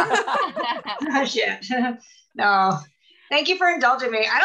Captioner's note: laughing